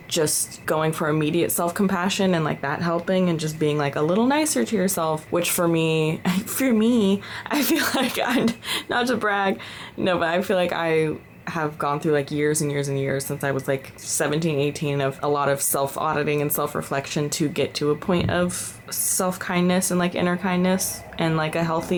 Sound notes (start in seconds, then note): 7.6 laughter